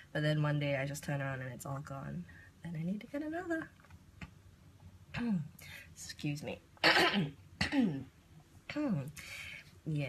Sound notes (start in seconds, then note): 7.6 clears throat